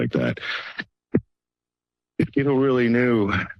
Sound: pause

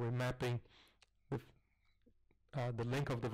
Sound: pause

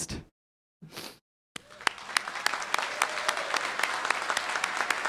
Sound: applause

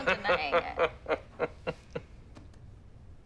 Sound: laughs

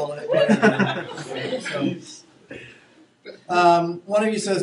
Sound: students laughing

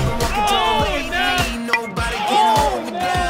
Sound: voiceover

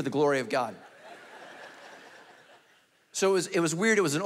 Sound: congregation laughing

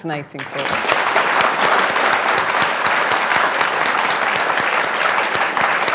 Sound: applause

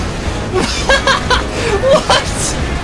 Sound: laughs

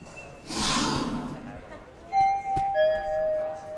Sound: sliding door whooshing; bell beeping

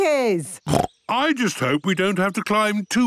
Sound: snorts

